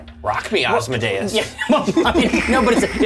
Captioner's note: all laugh